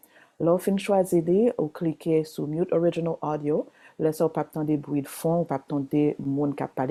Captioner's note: continues speaking Haitian Creole